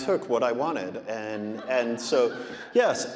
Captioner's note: audience laughing